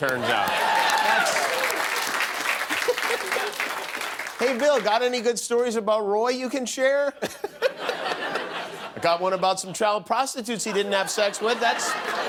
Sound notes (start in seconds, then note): 5.8 applause